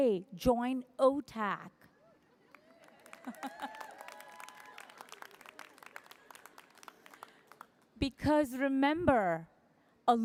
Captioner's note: applause